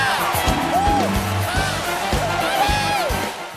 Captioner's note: band playing; cheers and applause